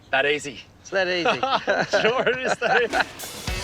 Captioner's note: laughs